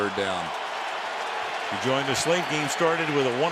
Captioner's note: cheering